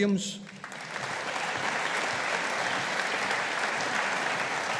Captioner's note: audience applauding